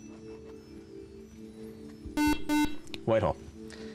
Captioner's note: beep